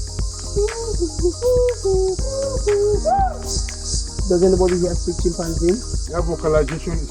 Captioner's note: ascending sound